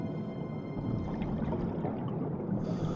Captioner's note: oxygen bubbles blowing